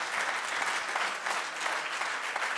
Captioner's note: audience applauds